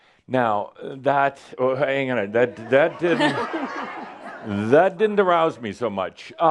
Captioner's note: laughter